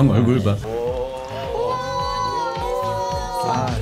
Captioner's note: everyone gasping upon entering